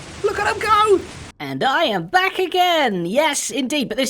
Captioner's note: squeaky voice